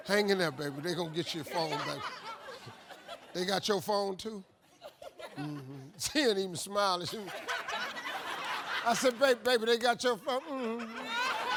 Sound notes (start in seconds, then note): 2.4 audience laughing; 7.0 audience laughs